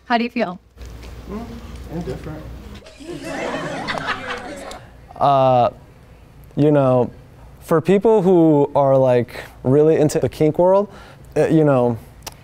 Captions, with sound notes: How do you feel? - Indifferent. (crowd laughing) - You know, for people who are like really into the kink world, you know,